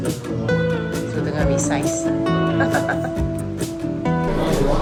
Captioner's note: laugh